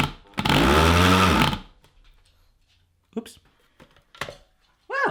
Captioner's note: loud grinding; vigorous grinding stops